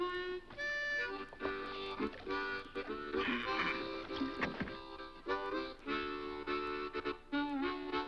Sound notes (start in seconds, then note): 2.7 Beppe grunts; 3.9 boat thuds